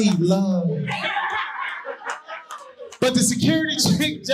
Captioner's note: audience laughing